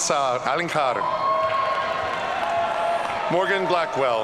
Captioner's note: audience cheering